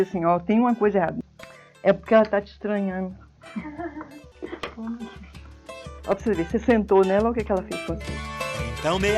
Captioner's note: laughs